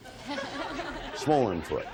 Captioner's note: all laugh